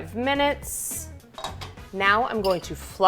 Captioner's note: lid clattering